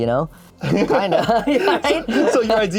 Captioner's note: laughs